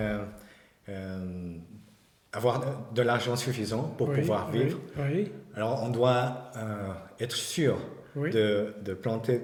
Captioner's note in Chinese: 用法语交流